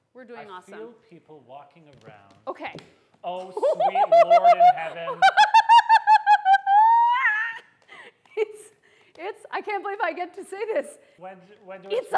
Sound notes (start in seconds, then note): 3.6 anxiously laughs